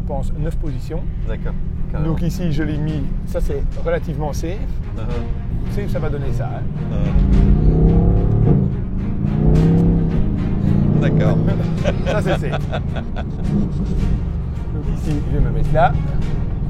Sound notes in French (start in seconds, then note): 12.8 Rire